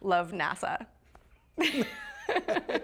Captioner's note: laughter